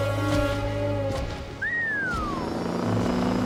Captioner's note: car speeding; whistling